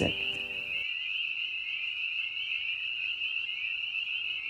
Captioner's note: frogs croaking